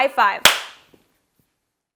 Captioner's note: claps loudly